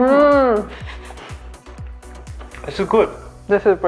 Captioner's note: chuckling